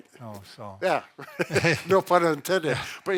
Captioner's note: both chuckling